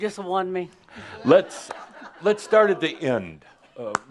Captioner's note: more chuckles